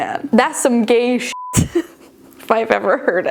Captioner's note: beeping